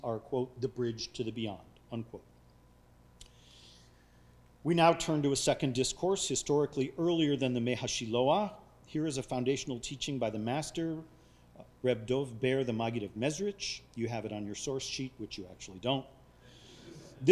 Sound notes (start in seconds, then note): 7.7 speaking foreign language